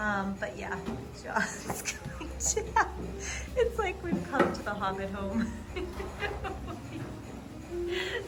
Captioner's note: laughing